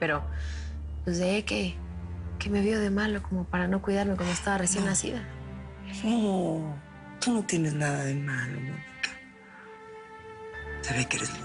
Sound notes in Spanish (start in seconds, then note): none